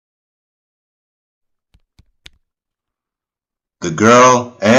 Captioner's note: foot steps on the ground